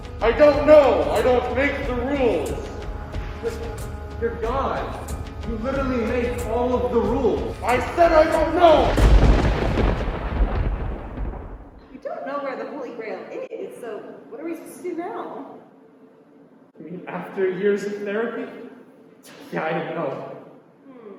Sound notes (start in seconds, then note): 7.7 thunder strikes